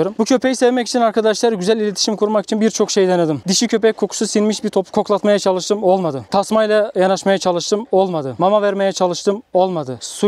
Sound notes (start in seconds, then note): none